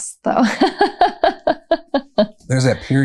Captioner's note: laughter